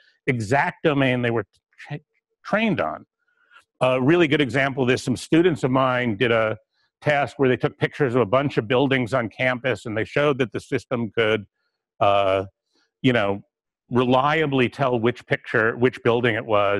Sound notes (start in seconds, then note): 12.1 pause